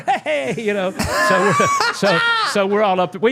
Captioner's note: laughing